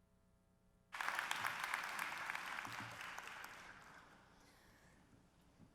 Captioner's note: applause